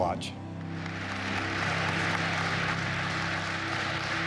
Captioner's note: applause